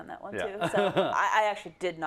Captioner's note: laugh